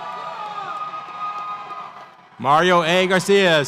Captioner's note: audience cheers